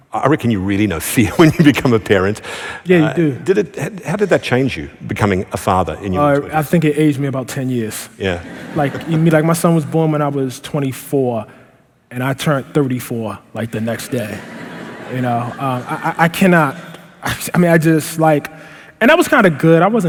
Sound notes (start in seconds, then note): 8.3 laughter; 14.0 laughter